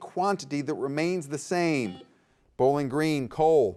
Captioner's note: buzzer beeps